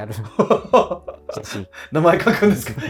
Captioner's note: laughing